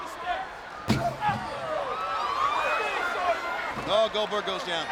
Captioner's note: steel steps thudding